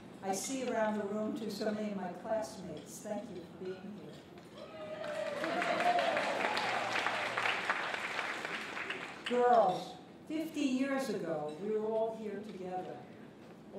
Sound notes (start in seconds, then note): 4.9 applause